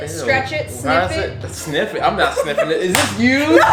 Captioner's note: laughing